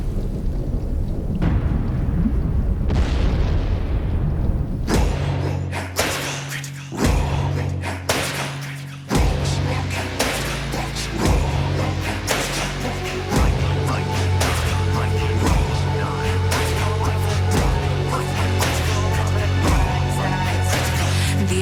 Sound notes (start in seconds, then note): 0.0 booming; 2.9 explosion